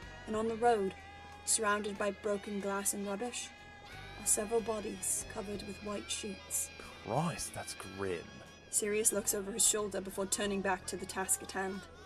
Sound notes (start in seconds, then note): none